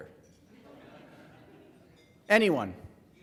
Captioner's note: laughing